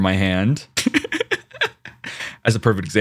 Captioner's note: Aloha Laughs